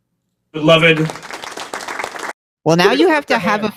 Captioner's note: applause